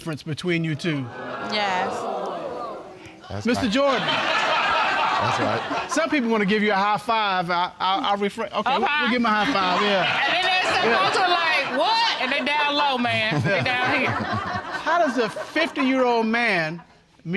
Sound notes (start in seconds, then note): 3.2 audience laughing; 13.7 chuckling